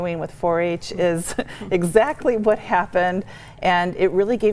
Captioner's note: chuckling